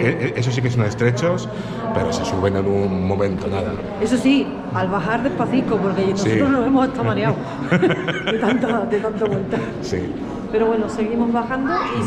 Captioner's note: laughs